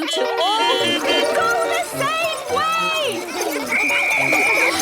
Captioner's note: beeping; whistle blowing